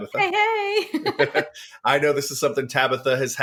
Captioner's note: laughs